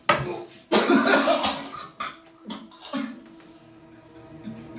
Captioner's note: retching and vomiting